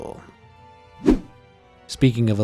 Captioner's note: image whooshing